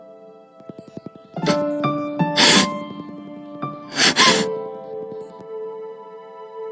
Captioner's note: sobbing